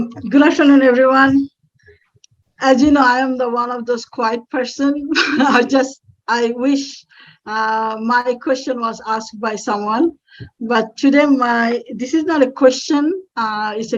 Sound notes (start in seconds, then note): 5.1 laugh